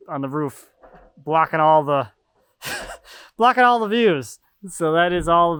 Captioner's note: laughing